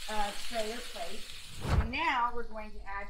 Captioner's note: whooshing